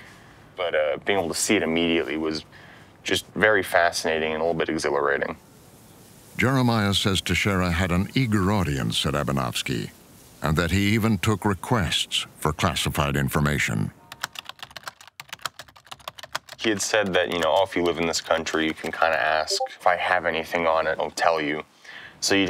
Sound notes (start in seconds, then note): 14.1 typing